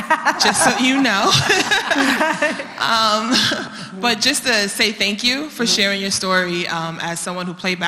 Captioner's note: laugh